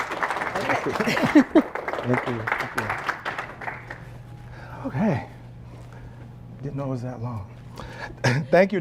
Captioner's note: applause